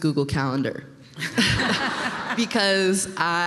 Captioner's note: laughter